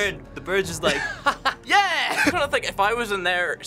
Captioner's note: laughs